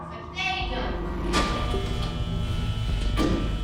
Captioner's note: doors buzzing